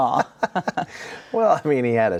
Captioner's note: both chuckling